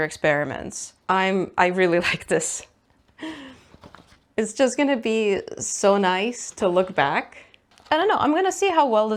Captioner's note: laughs